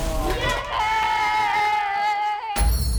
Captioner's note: players cheering; game graphic thumps